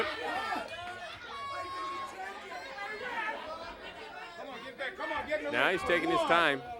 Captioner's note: crowd chatter